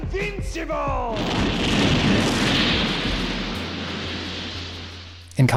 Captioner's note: massive explosions